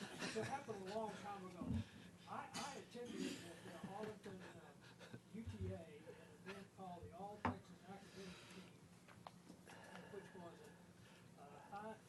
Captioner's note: off mic